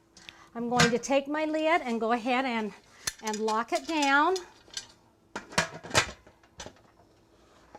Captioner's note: clacking of the lid